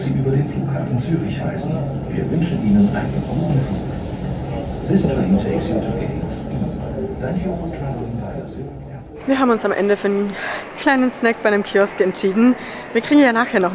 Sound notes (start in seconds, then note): 4.9 in English